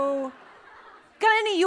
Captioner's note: laughs